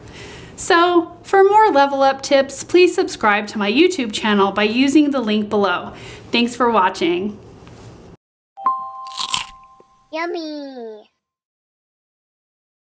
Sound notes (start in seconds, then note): 9.5 bell dings